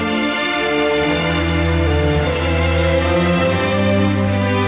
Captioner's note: audience applauding